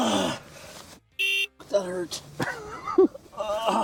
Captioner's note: beep